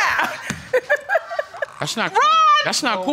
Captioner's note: laughs